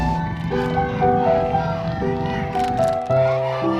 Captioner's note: people cheering